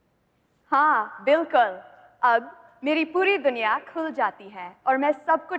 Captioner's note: speaking hindi